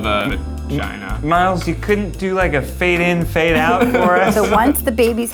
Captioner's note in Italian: risate